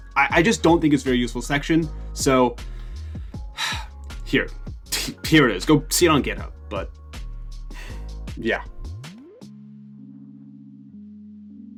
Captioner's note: sigh